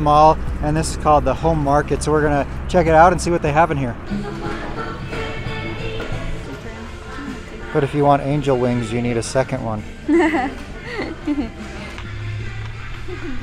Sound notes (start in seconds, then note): 10.0 laughing